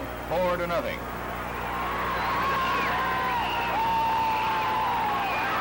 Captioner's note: crowd cheering and shouting